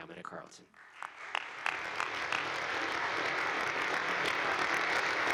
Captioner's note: audience applauding